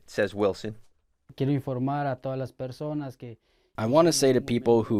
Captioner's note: speaking in Spanish